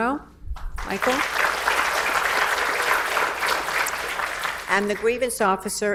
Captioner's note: audience applauds